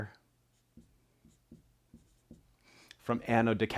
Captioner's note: pen scratching